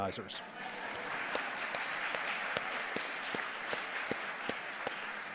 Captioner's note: audience applause